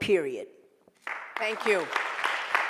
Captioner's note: applause